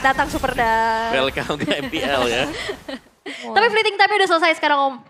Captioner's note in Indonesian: tertawa